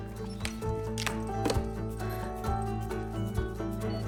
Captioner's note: claps phone shut and huffs